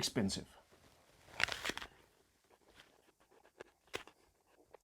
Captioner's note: crunches apple